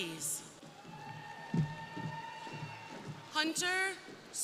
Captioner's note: crowd cheering